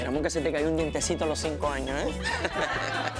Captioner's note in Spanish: Risas